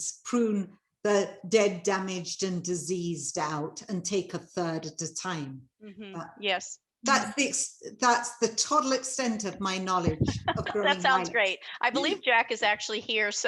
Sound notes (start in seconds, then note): 10.1 laughing